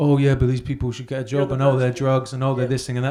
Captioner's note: murmurs